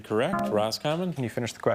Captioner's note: buzzer buzzes